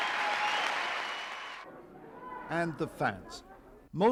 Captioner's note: cheering